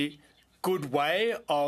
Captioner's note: speaking French